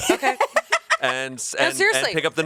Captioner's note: laughs